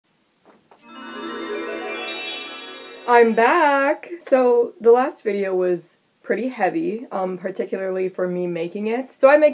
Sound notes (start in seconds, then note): 0.8 magical sound effect